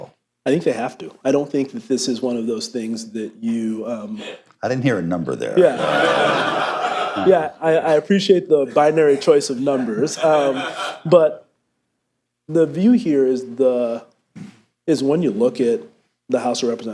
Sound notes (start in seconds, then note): 5.6 laughter; 9.7 laughter